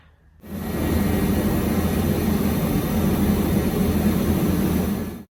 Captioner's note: a loud fan sound that resembles a small jet engine